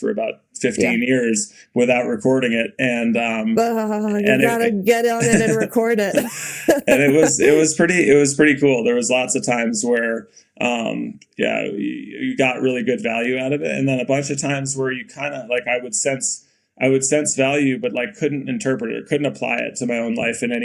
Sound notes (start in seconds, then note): 6.4 Bode and Mikaela laughing